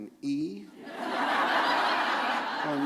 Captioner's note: laughter